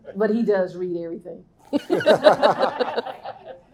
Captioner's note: laughing